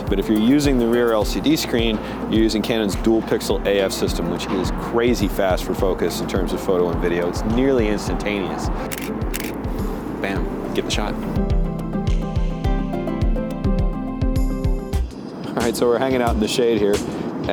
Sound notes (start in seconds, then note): 8.9 camera shuttering; 11.6 bright inspirational music